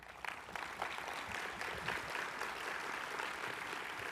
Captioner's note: audience applauding